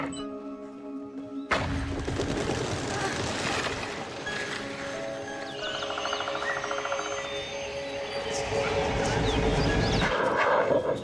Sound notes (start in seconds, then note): 1.7 gate slams; 1.7 wings flap; 4.8 birds tweet; 8.2 eerie music